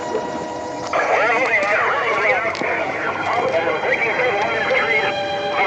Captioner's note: voices on police radio